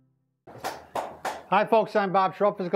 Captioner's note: claps